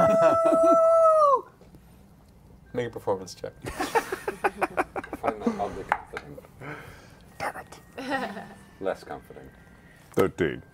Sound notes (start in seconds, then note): 0.0 howls; 3.6 laughter